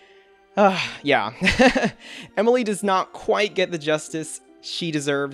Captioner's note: laughs